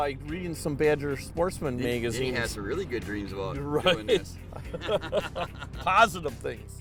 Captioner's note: laughing